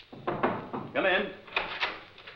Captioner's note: knocking